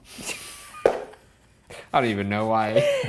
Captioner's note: laughing